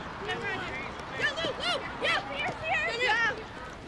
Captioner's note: players shout